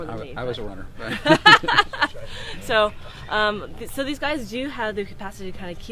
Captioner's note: laughs